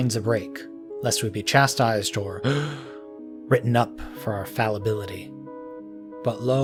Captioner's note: gasp